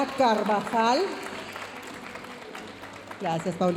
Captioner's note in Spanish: aplausos de la audiencia